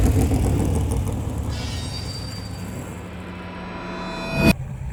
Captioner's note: spooky_sound.mp3 plays